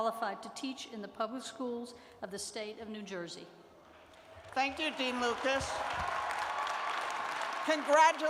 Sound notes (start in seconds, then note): 4.1 applause